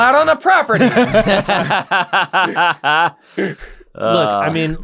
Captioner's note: laughter